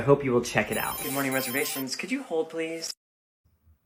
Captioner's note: phone ringing